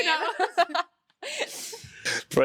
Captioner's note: both laughing